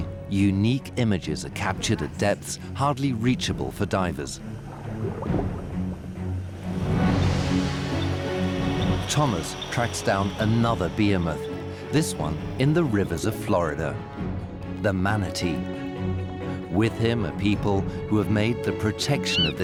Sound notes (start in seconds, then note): 6.8 equipment beeping